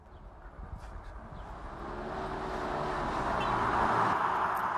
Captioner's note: engine revving